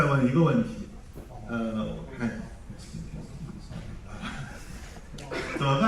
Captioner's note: laughs